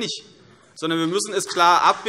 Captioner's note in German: Beifall CDU und BÜNDNIS 90/DIE GRÜNEN